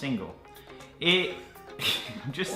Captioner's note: laughing